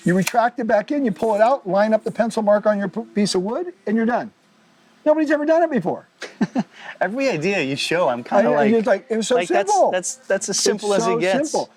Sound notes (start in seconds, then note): 6.2 chuckles